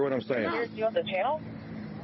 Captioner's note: radio chatter